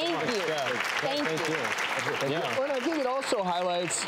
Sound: audience applause

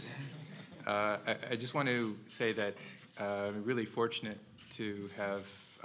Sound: laugh

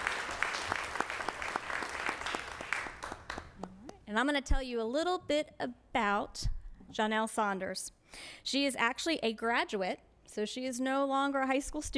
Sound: applause

